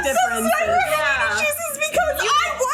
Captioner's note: laughing